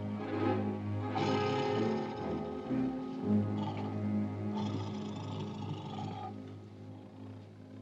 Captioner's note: ominous music; tiger growls